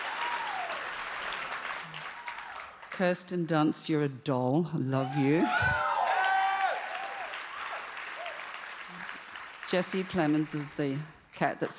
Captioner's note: cheers and applause